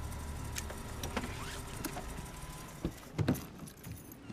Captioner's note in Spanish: motor apagándose